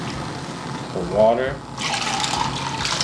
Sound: liquid pours

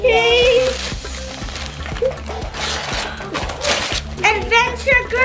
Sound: paper rustling

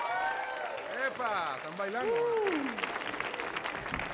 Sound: audience applauding; speaks in Spanish; audience applauding

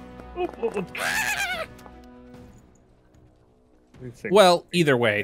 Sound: noises of frustration

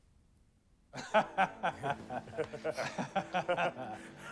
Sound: laughing

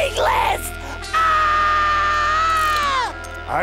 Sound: screaming

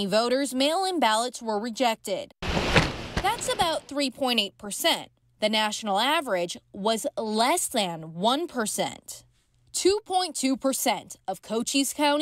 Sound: nat pop of ballots being counted

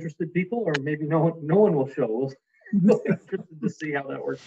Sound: laughs

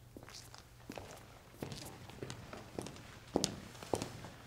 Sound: footsteps tapping

